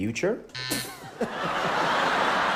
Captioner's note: incorrect buzzer; audience erupts in laughter and applause